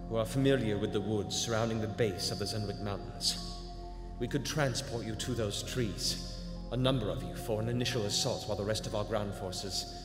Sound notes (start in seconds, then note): none